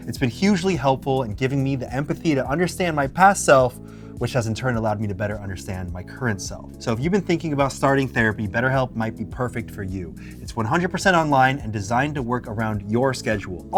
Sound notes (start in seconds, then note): none